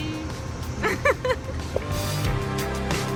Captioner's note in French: rires